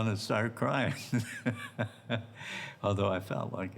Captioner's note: laughing